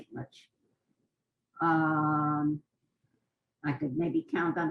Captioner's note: pauses for 3 seconds